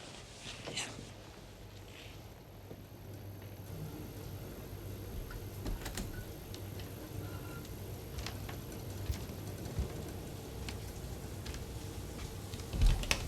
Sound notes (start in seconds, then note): 3.9 refrigerator noise; 8.2 footsteps